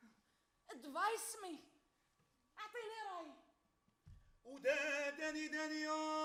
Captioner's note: speaks Arabic; man sings in Arabic